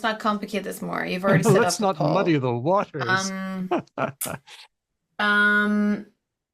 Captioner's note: laughs